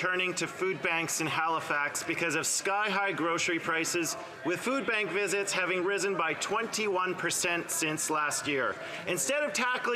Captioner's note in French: voix de l'interprète